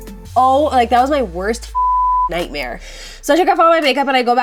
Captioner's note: beep